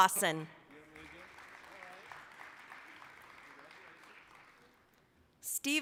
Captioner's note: applause